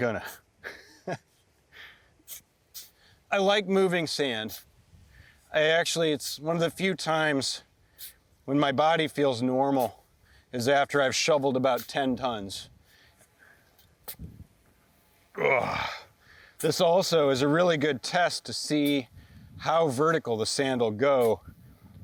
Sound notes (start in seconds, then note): 0.6 chuckles; 13.7 grunts; 13.7 sand rustles